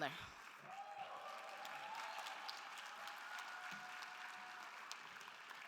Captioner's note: attendees applauding and cheering